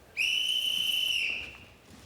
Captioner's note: whiststlele blolowiw